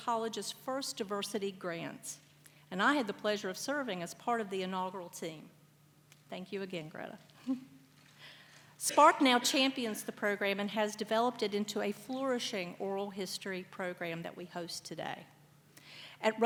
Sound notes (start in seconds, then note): 8.2 laughs